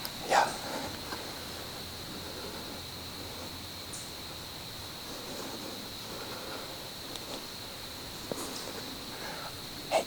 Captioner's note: wind / birds